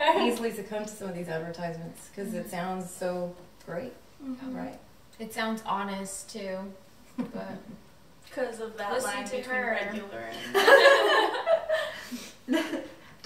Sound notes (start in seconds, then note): 7.2 laughs; 10.4 everyone laughs